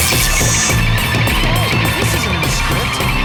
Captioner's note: buzz